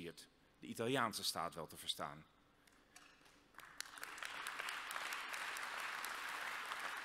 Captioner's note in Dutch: applaus